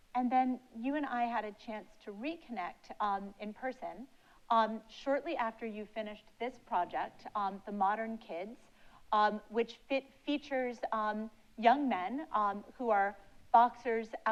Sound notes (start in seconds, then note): none